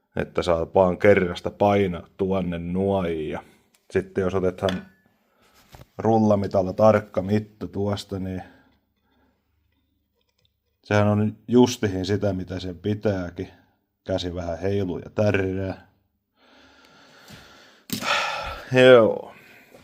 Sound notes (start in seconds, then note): 16.4 heavy breath; 17.8 sigh